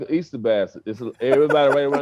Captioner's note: laughs